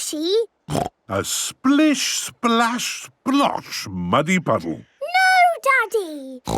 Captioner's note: snorting; snorting